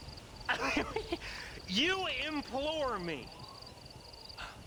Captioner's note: laughs